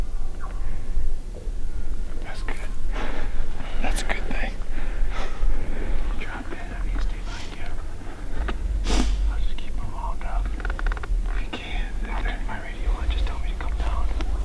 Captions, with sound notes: That's good! (Laughing) That's a good thing. Drop in and I'm gonna stay behind ya. I'll just keep'em wound up. If ya can, I'll keep my radio on, just tell me to come down.